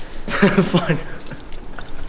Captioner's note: laughs